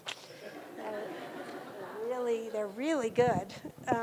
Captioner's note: audience laughing